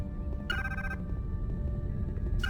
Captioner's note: phone ringing